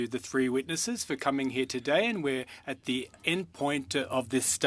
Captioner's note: speaking French